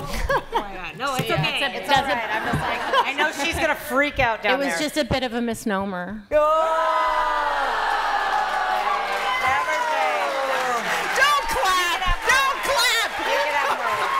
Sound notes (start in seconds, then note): 6.6 cheering and laughter